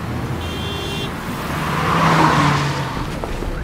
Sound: people talking; car sound

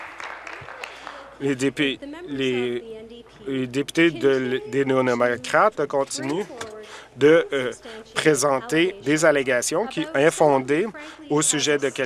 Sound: applause

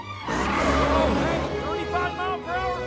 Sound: tires squealing

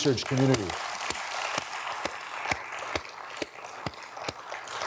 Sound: audience applauding

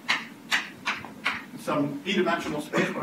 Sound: chalk writing on chalkboard

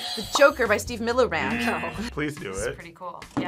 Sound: buzzer rings; buzzer

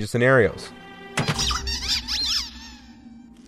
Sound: squish

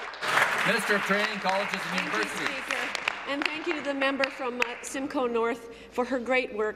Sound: applause

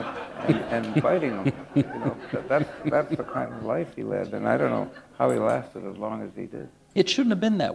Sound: laughter

